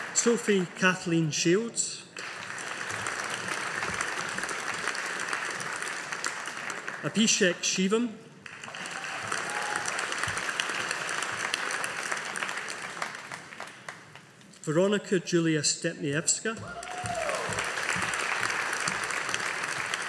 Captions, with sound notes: Sophie Kathleen Shields. (AUDIENCE APPLAUDING) Abhishek Shivam. (AUDIENCE APPLAUDING) Veronica Julia Stepniewska. (AUDIENCE APPLAUDING)